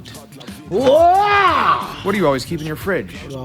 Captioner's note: yells